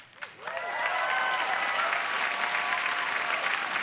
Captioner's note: audience applauding